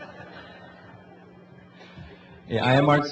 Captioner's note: laughing